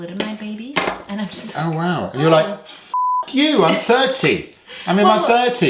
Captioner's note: beep